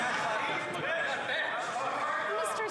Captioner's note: some Applause